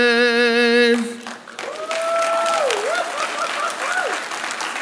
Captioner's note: applause